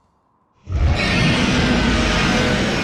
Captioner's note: roars